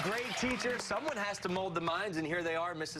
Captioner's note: cheers